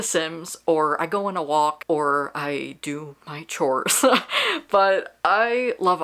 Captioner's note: laughs